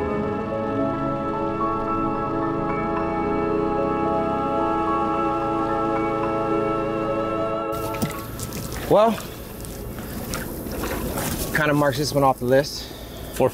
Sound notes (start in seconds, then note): 2.7 boat engine revving